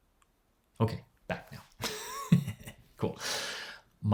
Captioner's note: laughs